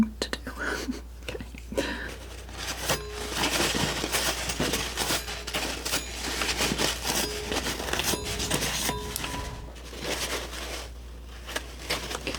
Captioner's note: scratching